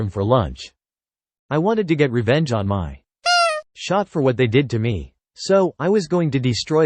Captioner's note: beep